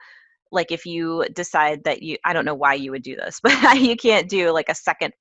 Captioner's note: laugh